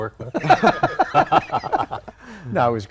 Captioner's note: laughter